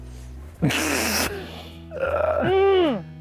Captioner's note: snorts; groans